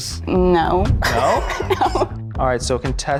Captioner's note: laughing